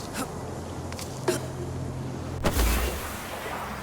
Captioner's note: grunts; gunshot